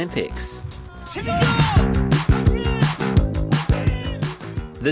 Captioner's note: shouts in own language